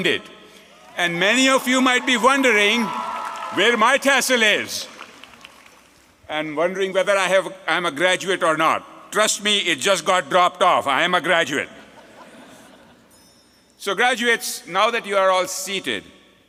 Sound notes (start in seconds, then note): 5.1 applause